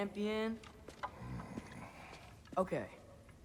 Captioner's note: grunt